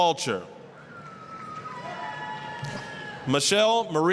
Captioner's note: applause, cheering